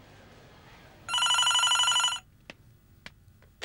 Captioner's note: phone ringing